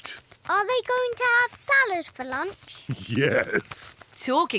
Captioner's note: laughs